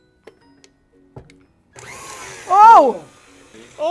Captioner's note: mixer starts